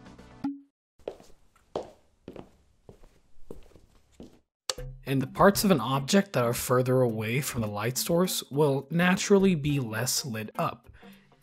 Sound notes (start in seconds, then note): 1.0 footsteps